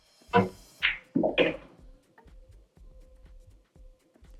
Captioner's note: balls hitting